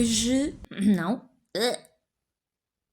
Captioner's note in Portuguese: ruído de frustração